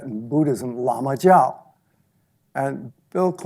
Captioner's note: speaks in foreign language